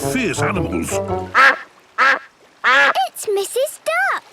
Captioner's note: quacking